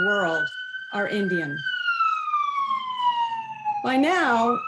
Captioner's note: siren wailing